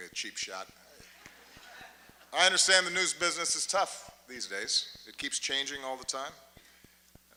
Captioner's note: laughter